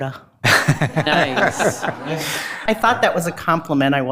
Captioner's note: board Members laughing